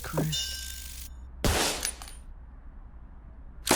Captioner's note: gunshot